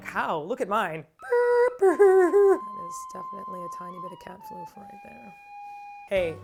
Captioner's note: sad sounds